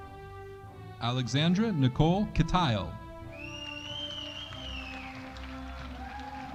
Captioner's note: audience applauding